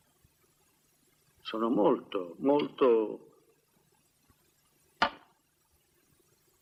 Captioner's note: clattering